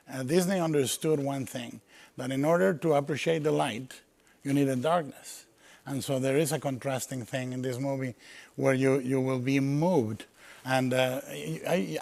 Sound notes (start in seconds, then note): none